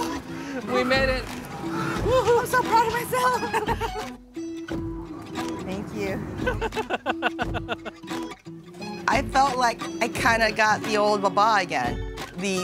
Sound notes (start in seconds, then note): 6.4 laughs